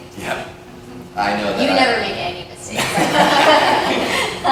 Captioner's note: laughter